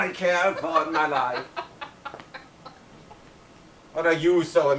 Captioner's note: Algernon laughs